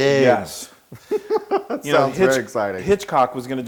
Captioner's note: laugh